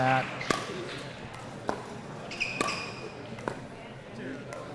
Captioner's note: ball clacking